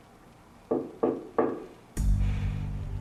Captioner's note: knock at door; pensive music